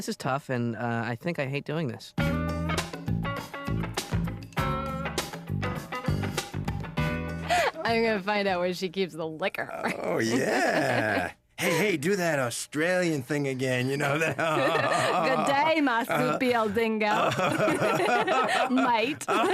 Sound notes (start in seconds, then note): 9.6 drunkenly; 16.5 in Australian accent; 19.3 laughing